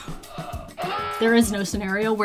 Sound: alarm blaring

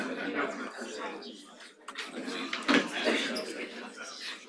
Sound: audience chattering

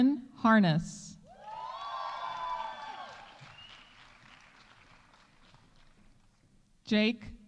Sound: audience cheering; audience applauding

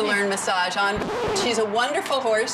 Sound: record scratching

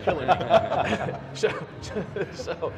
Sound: laughing

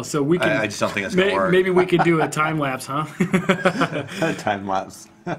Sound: laughs

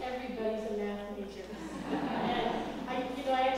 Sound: laugh

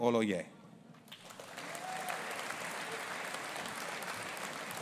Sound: audience applauding

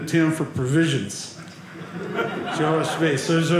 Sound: audience laughing

